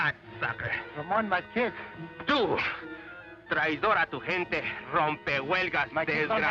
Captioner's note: Ramon speaks Spanish